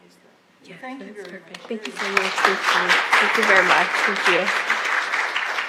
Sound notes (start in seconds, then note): 4.0 applause